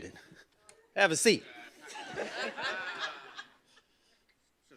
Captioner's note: laughter